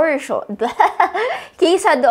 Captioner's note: chuckles